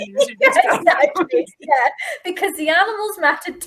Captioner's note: laughing